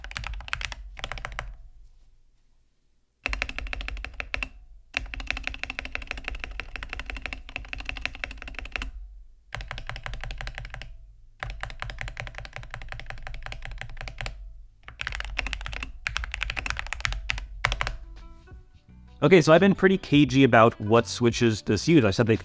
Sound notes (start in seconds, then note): 9.3 keyboard typing